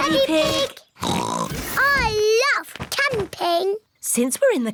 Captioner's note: oinks